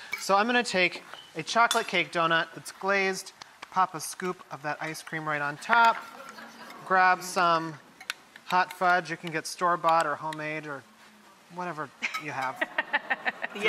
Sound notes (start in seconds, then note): 5.8 audience member laughs; 12.5 laughs